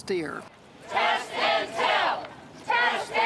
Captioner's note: crowd chanting